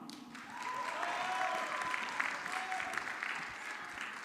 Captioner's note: audience clapping